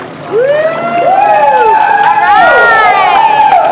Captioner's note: group cheering